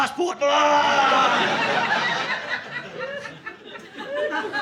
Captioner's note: audience laughing